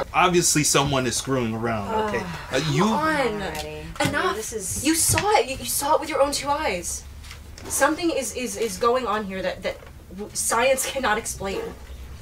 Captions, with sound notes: - Obviously, someone is screwing around. Okay? (Samantha sighs) - Uh, you... Come on. - Come on, already. - Enough. - I mean, this is... You saw it. You, you saw it with your own two eyes. Something is, is, is going on here that, that science cannot explain.